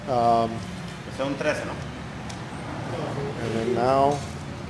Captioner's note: man speaking a different language